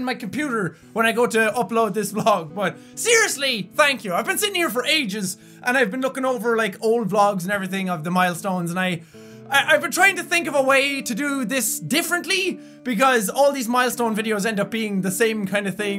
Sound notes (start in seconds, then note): 9.0 inhale